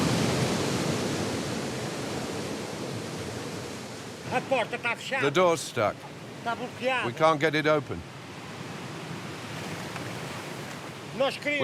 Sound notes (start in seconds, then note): 4.3 speaking in foreign language